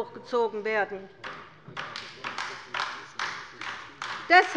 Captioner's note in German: Beifall bei der LINKEN